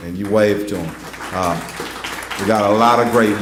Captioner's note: applause